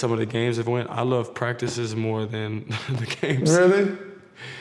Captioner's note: chuckles